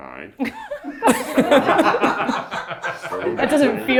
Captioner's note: everyone laughs